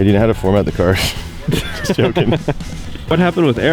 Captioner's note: laughing